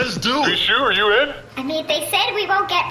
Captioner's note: hesitant